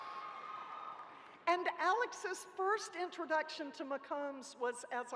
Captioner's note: cheering